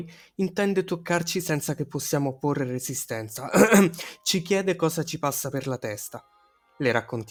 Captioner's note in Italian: ehem